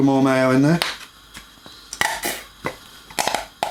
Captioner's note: tapping